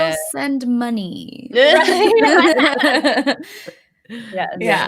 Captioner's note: all laughing